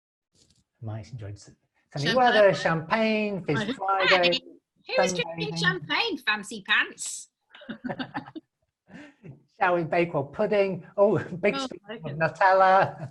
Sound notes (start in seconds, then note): 2.9 mumbling; 7.6 laughing